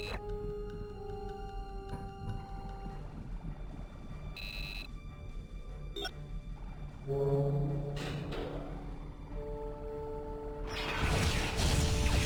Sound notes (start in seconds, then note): 0.0 beeping; 10.8 explosion